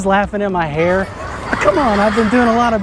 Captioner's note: children laughing